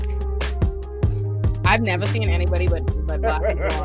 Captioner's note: laughing